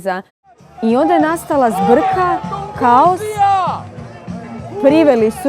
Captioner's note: yelling in the background